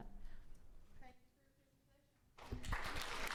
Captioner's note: woman speaking faintly; all applauding